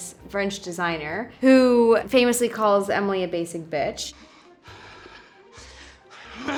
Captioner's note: foreign language